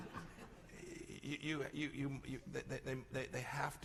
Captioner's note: laughter